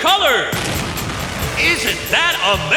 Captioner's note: exploding